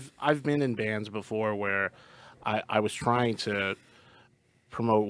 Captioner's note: none